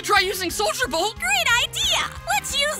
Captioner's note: sarcastically